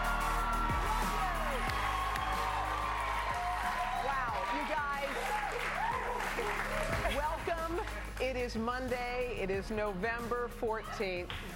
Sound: cheers and applause

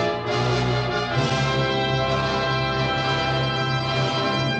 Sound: none

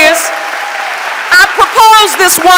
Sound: audience applauding

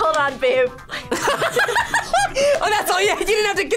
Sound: both laugh

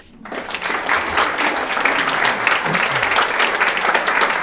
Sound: all applauding

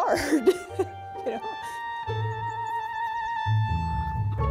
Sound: laughing

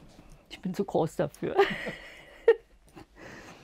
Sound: laughter

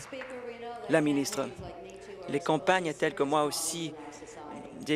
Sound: applause

